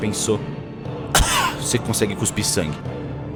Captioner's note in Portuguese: Cof